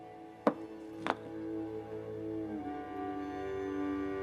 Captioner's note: spool thumping